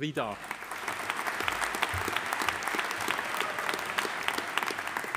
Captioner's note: audience applauding